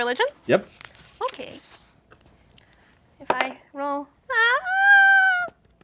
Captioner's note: dice roll